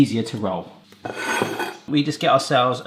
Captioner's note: plate scraping